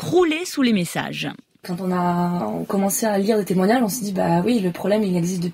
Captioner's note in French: Voix d'une jeune femme